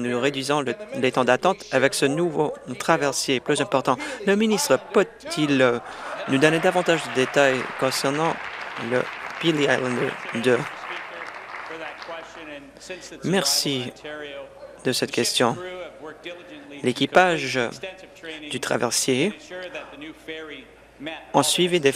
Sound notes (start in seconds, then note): 10.2 applause